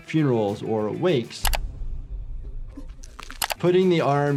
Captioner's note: apprehensive music; joints crunching